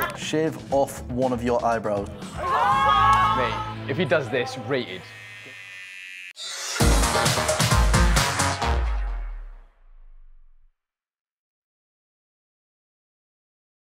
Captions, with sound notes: ‘Shave off one of your eyebrows.’ [SCREAMS] Mate, if he does this, rated. [RAZOR BUZZING]